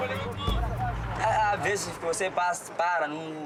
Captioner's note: Portuguese spoken audio